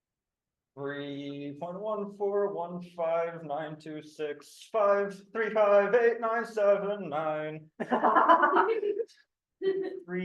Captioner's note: laughter